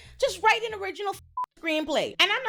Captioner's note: beep